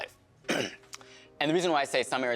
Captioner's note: clearing throat